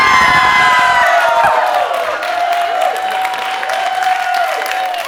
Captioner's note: applause